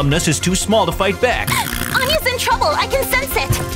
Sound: Caroline gasps

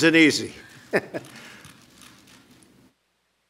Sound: laughter

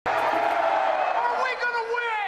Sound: crowd cheering

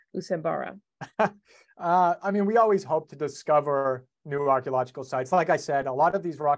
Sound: laughs

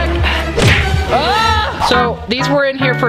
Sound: screaming

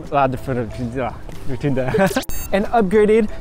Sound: speaks gibberish; laughing

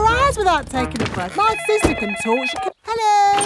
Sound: cellphone ringing

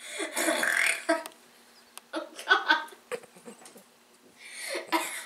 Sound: burp; hicca-burp; giggle; giggle-burp

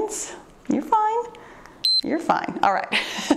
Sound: timer beeps

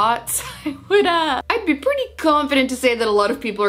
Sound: chuckles

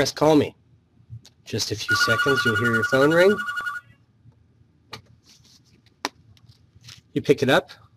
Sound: ring

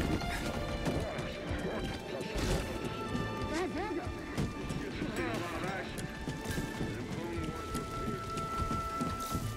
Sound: indistinct chatter

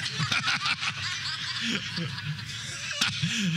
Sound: laughter

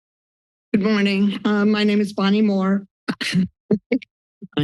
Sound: laughs

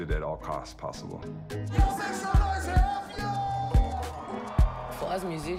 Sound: cheering

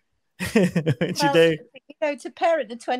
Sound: laughing; laughs

